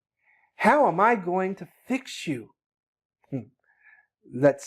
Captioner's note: low audible Chuckle